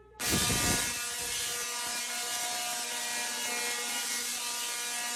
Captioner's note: electricity bolts buzzing